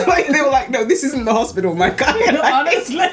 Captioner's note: laughs